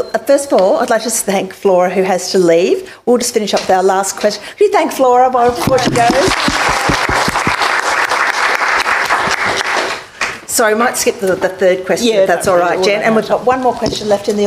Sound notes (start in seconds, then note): 8.4 applause